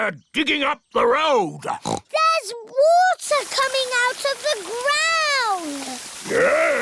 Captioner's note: oinks